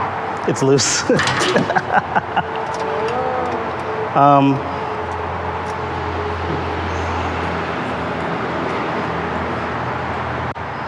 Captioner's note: disappointed laughter